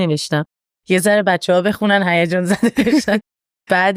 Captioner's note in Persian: خنده